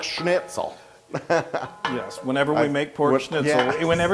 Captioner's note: laugh; laugh